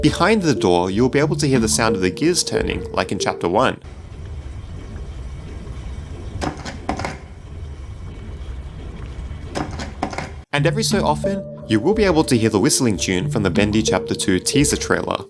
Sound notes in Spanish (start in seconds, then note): 3.8 Sonido de engranajes girando